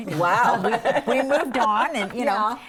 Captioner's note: laughing